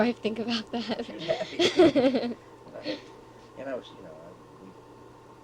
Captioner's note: both laugh